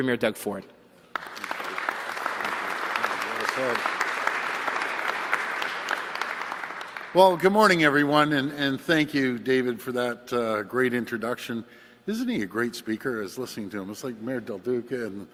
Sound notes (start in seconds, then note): 3.6 applause